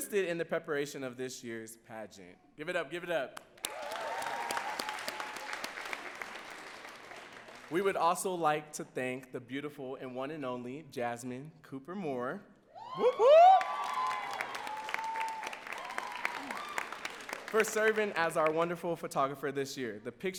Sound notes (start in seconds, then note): 3.5 audience cheering and clapping; 12.8 audience cheering and clapping